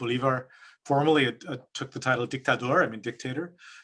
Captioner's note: speaks in French